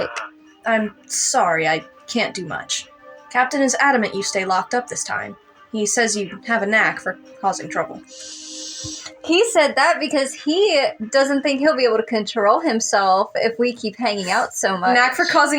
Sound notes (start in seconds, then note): 8.1 inhale